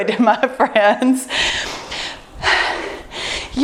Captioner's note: sighs